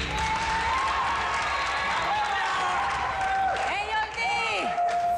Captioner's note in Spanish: Aplausos